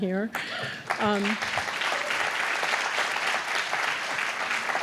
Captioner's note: applause